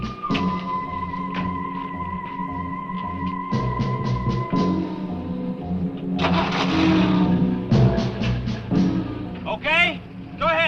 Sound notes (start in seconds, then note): 6.0 engine cranks